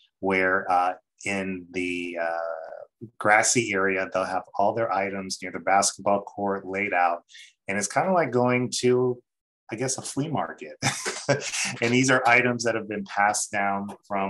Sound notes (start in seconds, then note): 10.8 laughs